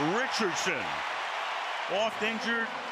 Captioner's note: cheering